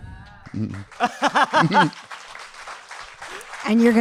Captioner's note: audience clapping; laughing